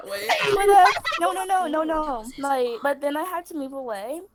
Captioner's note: laughter; still whispering: It was his aunt o_o